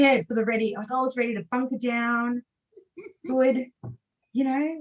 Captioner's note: laughs